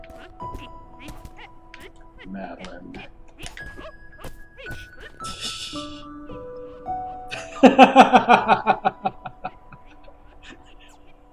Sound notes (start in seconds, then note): 5.0 tee-heeing; 6.6 granny's laugh continues in the distance; 7.0 laughs